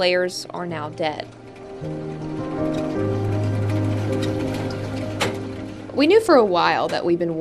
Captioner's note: mechanical whirring